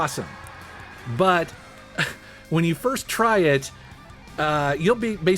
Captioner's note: laughs